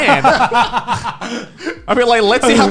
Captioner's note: laughing